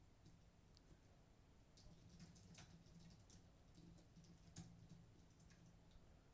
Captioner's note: typing